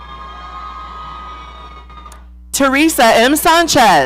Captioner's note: audience cheering